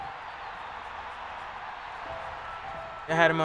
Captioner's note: crowd cheering